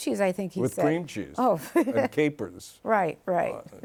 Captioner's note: laughs